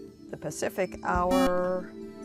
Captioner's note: buzzer